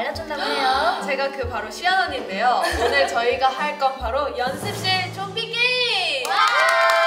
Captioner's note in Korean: 두둥